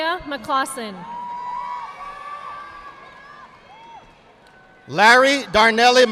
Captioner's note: audience applauding